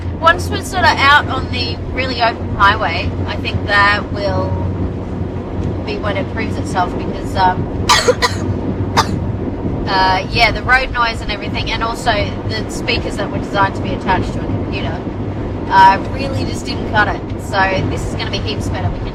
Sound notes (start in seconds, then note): 7.9 coughs more